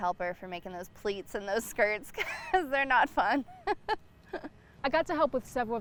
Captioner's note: laughs